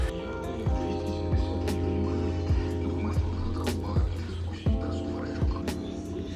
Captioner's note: sounds of radio station from the park loudspeakers